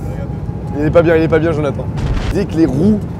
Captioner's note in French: Bruit d'explosion